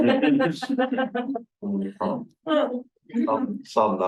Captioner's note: person laughing